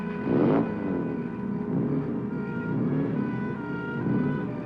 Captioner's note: engine revving